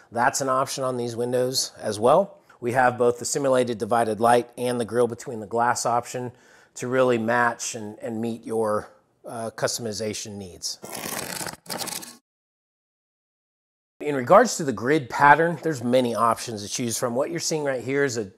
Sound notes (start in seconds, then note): 10.8 cardboard ripping